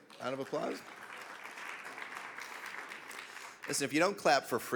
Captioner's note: audience clapping